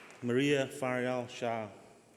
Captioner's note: applause